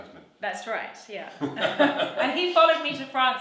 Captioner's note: laughs; laughs loudly